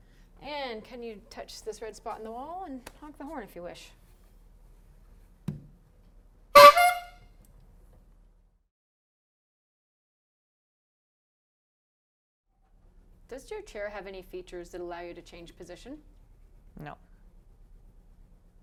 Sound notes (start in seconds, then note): 6.5 horn sound